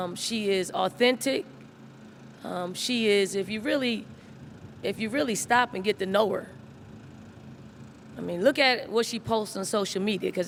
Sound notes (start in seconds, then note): none